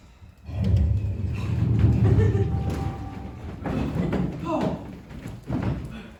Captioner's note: universe shifting sound